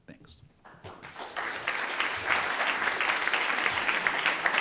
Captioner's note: audience clapping